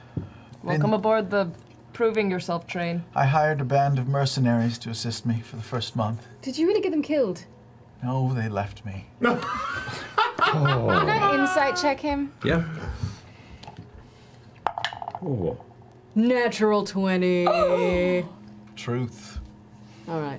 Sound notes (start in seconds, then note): 9.2 all laugh; 12.5 sighs; 18.4 gasps